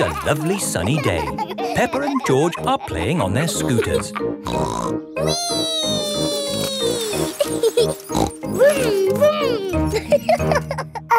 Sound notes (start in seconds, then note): 4.5 snorts; 7.7 laughs and snorts; 10.3 laughing